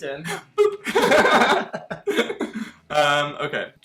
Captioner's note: both laughing